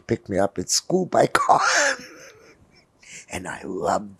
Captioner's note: laughing